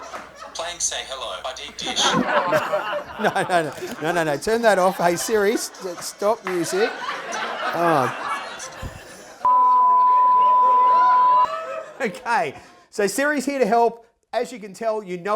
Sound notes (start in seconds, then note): 0.0 more laughs; 8.2 laughs